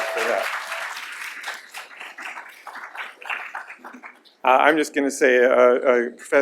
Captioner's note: applause